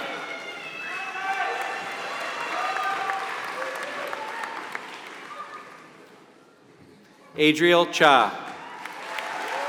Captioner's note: applause; applause